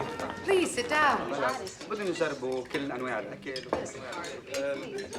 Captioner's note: people chattering